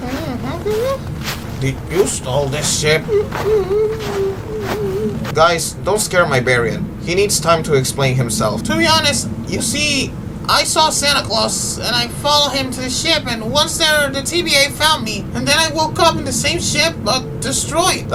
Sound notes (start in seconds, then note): 3.0 sad Hyena noises